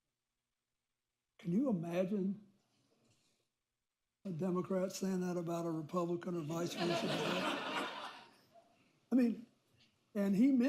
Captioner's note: laughter